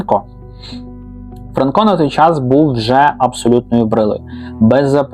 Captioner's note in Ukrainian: сопіння